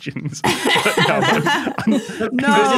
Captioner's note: laughs